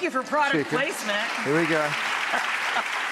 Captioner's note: audience applauding